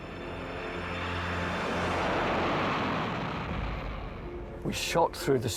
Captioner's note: jet engine roars